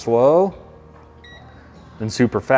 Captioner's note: remote beeps